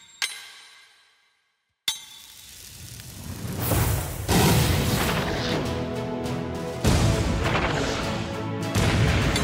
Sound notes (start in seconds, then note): 2.6 slow-motion gunfire